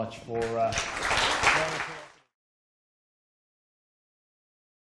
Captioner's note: applause